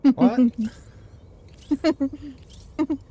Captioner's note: laughter